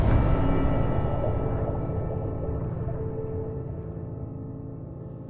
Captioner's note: intense music; water gurgling